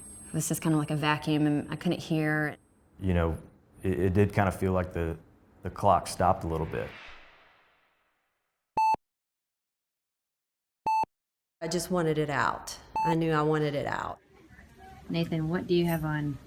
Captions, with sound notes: It was just kind of like a vacuum, and I couldn’t hear. You know, it did kind of feel like the clock stopped a little bit. [heart monitor beeps slowly in background] I just wanted it out, I knew I wanted it out. Nathan, what do you have on?